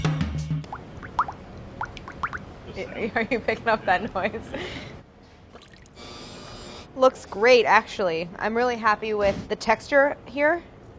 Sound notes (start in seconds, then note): 1.8 ingredients plop; 2.9 laughs